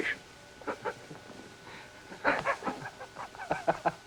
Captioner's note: laughs